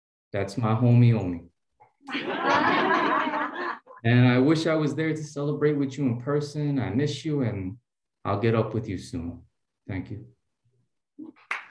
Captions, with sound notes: That's my homie, homie. [LAUGHTER] And I wish I was there to celebrate with you in person. I miss you, and I'll get up with you soon. Thank you.